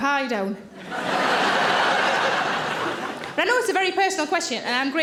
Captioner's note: audience laughing